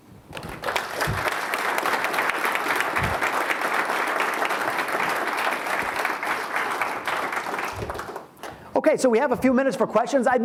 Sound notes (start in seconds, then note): 3.7 audience claps